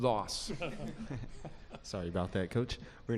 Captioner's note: laughter